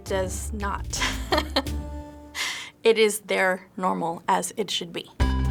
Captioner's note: chuckles; upbeat theme music